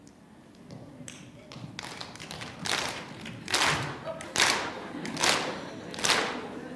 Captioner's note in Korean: 청중 박수